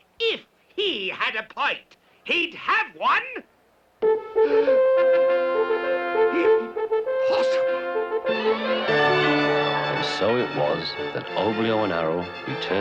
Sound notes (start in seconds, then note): 4.2 gasping; 4.2 trumpets Blaring; 8.4 crowd gasping